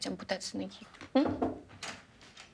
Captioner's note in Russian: стуки в дверь